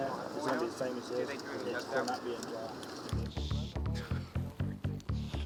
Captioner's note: background chattering